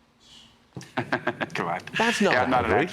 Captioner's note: laughter